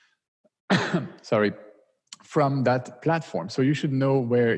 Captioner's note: cough